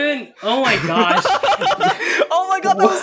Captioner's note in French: rigole